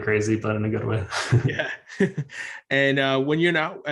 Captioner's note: both chuckles